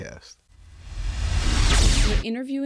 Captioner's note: electronic whoosh